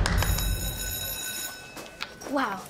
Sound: school bell rings

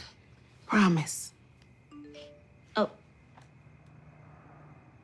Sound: cellphone chimes

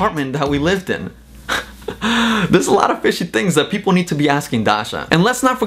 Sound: laughs

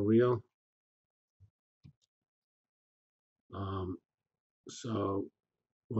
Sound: pause

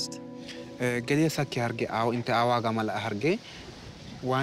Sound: speaking foreign language

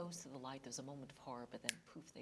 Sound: snaps fingers

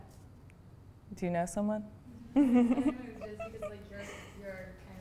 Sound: voiceover; giggles; voiceover

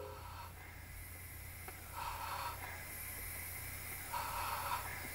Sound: suspenseful breathing

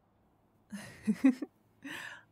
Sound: giggling

